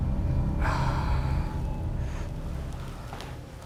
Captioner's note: sighs